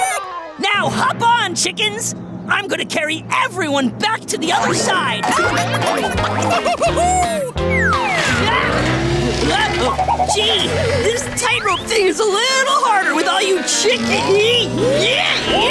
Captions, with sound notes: Now hop on chickens, I'm going to carry everyone back to the other side. [clucking] Gee, this tight rope thing is a little harder with all you chickens!